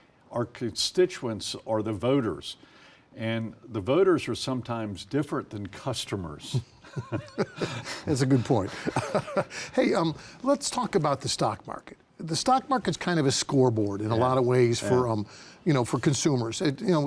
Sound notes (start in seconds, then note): 6.6 laughing